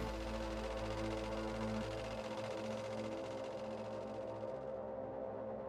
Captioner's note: machine whirring